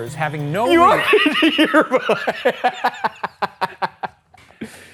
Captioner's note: laughing